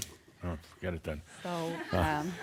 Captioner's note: she laughs